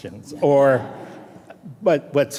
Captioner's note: audience laughing